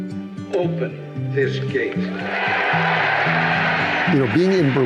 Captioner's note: audience cheering